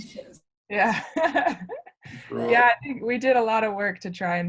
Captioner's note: laughs